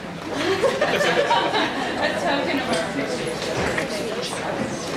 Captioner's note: audience laughs